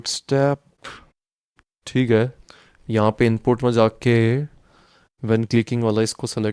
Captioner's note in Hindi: नाक से की जाने वाली आवाज़